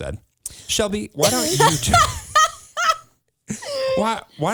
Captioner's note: laughs